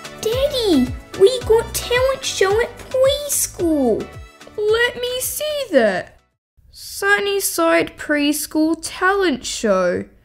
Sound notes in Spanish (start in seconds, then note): none